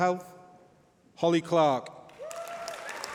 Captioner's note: applause